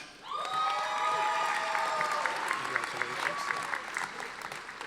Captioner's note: audience applauding